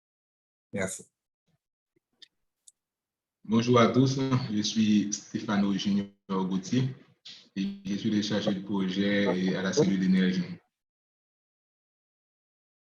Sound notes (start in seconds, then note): 4.3 non-english speech